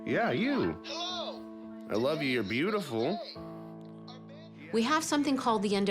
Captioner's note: tv plays in background